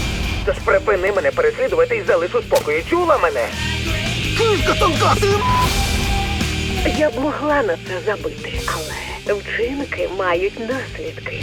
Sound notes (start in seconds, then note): 4.3 splutters